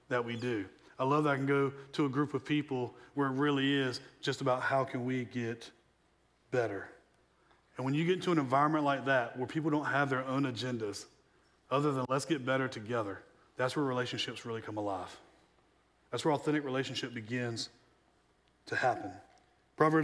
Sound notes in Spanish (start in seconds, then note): none